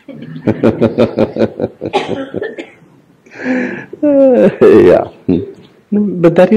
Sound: laughs

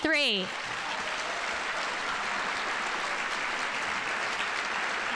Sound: audience applauding

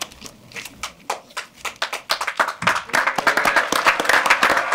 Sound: audience applauding; audience applauding and cheering

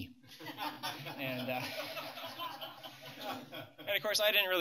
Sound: laughter

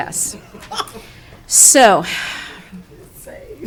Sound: people chuckling

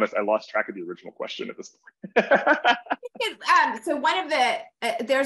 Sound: laughs

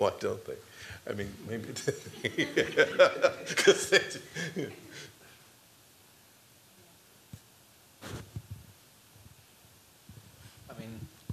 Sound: laughter

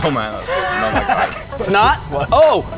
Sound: laughs

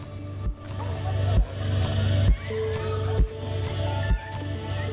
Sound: indistinct chatter

